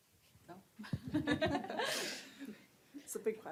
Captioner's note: laughter